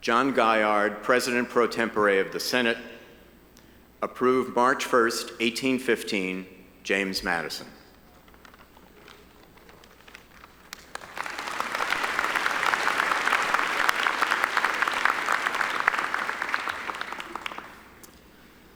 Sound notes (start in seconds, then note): 9.8 audience applauding